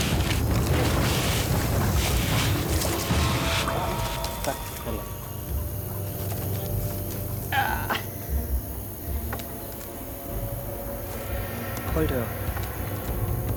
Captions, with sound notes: (speaking in a foreign language) - What are you doing?